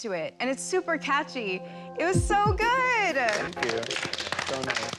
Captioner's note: applause